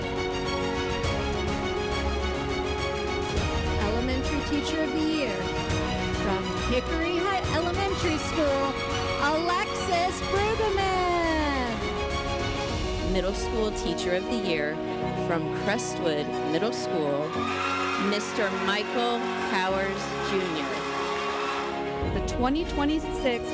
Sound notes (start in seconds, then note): 0.2 dramatic music; 11.8 dramatic music; 20.4 cheering and applause